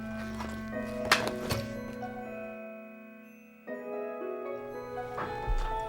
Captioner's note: rustling